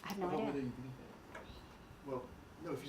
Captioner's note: speaking from off mic